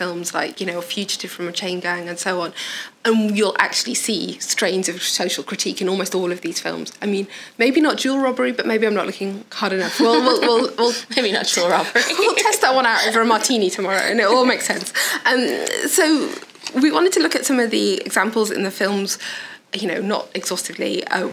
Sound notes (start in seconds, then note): 9.8 they laugh